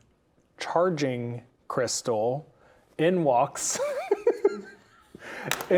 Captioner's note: laughing